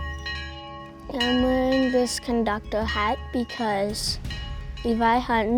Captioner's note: train Bell Ringing